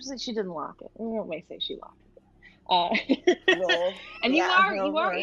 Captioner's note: laughs